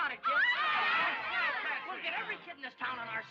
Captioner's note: crowd cheering